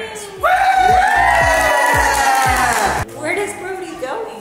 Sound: children cheer and clap

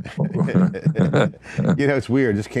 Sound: both laughing

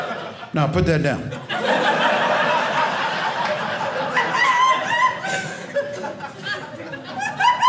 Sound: audience laughing

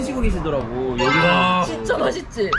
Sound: laughing

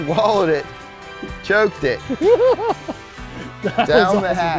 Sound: laughing

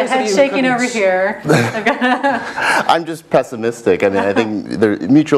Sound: laugh

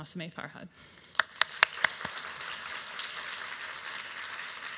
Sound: audience applauding

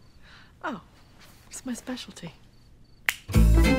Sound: clicks fingers; lively music

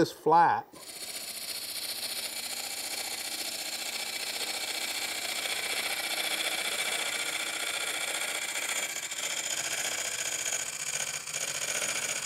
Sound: tool noise

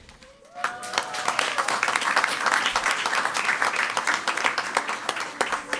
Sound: crowd cheering and clapping

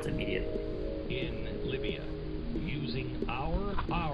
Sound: people talking through a speaker

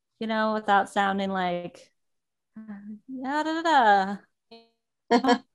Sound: speaks gibberishly

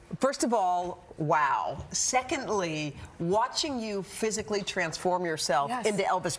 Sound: none

